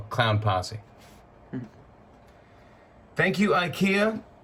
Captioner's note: chuckles